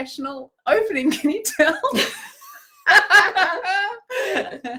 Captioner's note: laughing